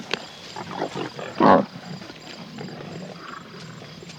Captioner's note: growls